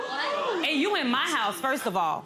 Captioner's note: gasps